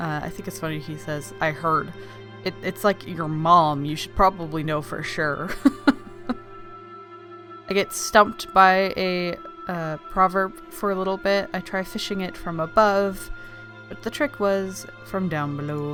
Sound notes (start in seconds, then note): 5.6 laughs